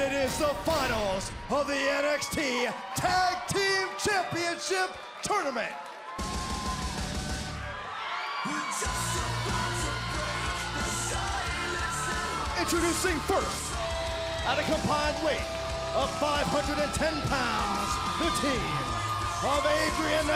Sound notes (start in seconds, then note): 7.9 crowd cheering